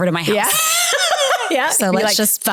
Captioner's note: laughing